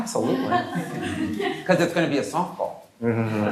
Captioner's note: laughter